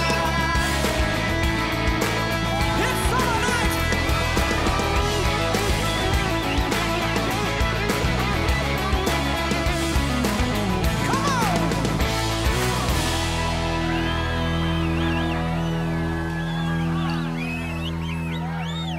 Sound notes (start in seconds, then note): 13.5 crowd cheering